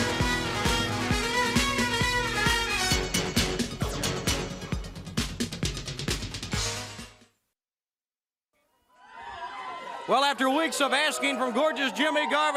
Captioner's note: crowd cheering